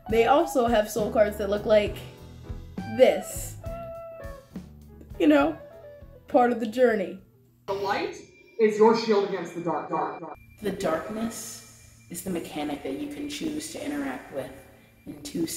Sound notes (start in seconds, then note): 9.4 dark echos; 10.0 darker Voice, quiet creepy under scoring